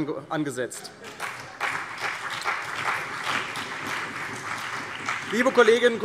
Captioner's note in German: Beifall CDU und BÜNDNIS 90/DIE GRÜNEN